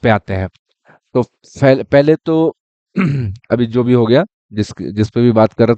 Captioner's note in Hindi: गला साफ़ करने की आवाज़